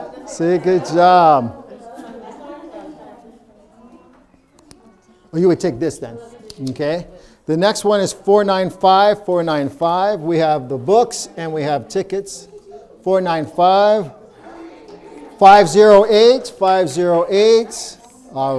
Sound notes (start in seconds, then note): 2.4 people talking